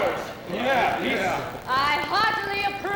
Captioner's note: men voicing agreement